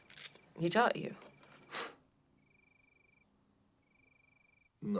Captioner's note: crickets chirping